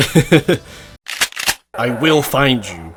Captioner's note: cocks Shotgun